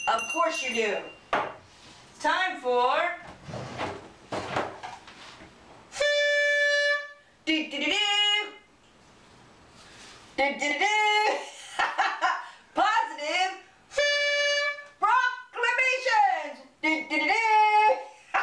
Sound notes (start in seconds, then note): 3.1 horn Blowing; 11.4 laughter; 13.9 horn Blowing; 18.1 laughter